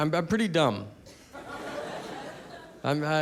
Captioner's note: audience laughing